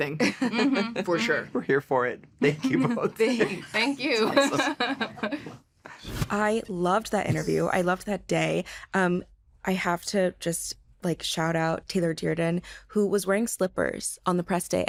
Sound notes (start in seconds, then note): 0.2 chuckles; 2.4 laughs